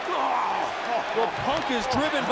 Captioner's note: Jeff groans